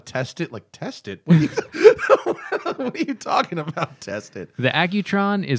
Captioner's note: laughter